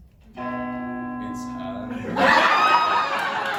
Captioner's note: church bell chimes